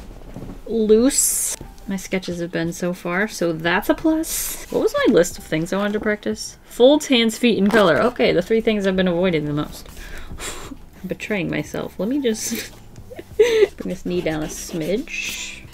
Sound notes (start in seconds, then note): 10.0 exhale; 13.1 laughs